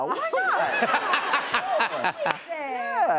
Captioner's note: laughter